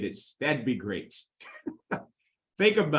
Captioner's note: chuckles